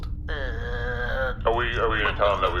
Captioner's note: makes an unhappy noise